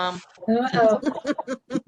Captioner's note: laughter